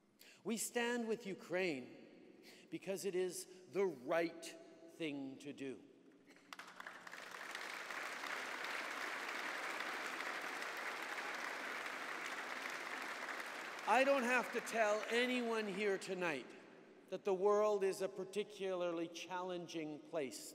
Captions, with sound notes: We stand with Ukraine because it is the right thing to do. (Applause) I don’t have to tell anyone here tonight that the world is a particularly challenging place